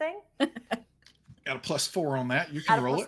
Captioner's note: laughing